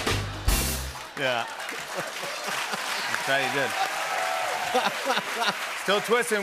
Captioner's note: laughter; cheers and applause